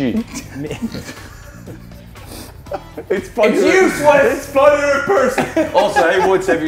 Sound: laugh

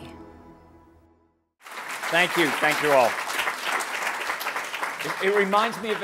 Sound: applause

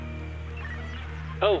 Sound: Static

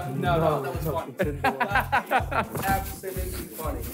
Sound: all laughing

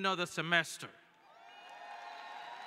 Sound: cheering

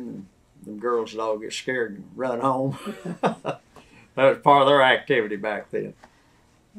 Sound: laughs

